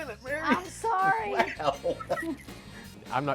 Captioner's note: laughs